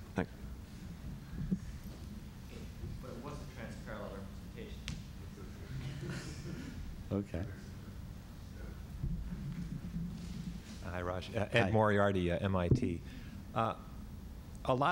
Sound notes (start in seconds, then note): 5.7 laughter